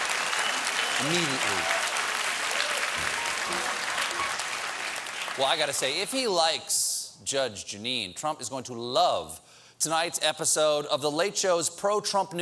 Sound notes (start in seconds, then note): 5.5 applause